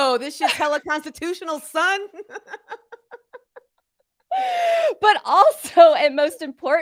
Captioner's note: chuckles